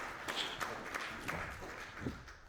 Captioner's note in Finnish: Suosionosoitukset